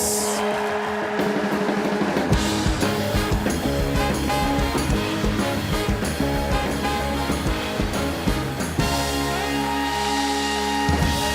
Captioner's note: applause